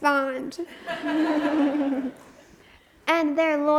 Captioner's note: audience laughs